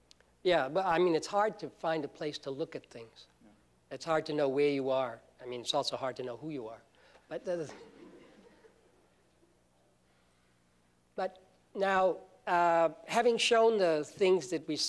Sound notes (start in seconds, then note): 7.6 laughter